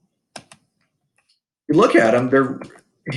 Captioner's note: mouse clicks